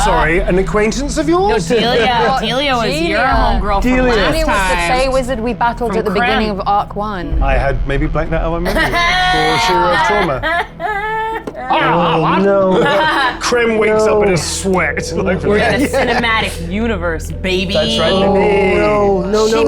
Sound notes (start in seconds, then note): 8.7 cackles